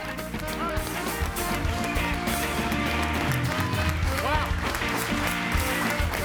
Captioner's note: audience applauding; upbeat music